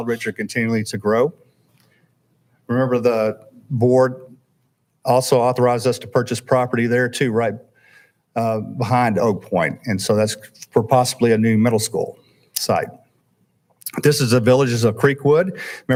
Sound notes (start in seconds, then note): none